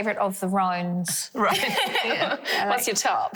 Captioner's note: laugh